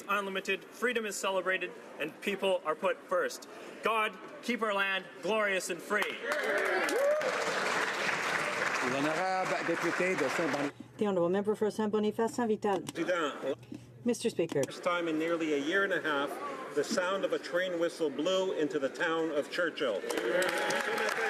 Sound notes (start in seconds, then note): 10.0 some Applause